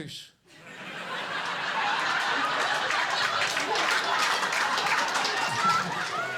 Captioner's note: audience laughing and clapping